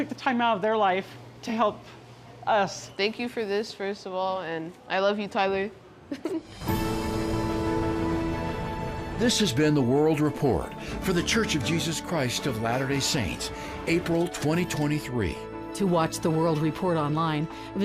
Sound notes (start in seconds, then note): 6.0 chuckles; 6.8 gentle music